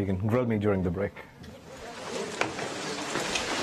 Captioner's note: background chatter